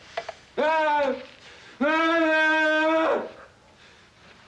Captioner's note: Casey groaning